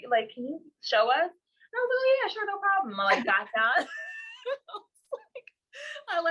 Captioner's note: laughs